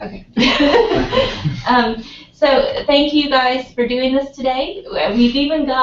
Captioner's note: laugh